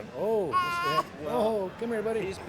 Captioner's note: baby cooing